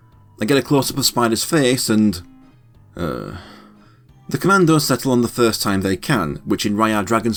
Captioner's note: sound of disgust